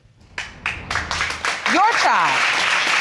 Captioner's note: audience applauding